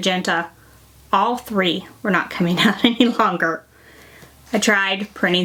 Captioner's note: laughs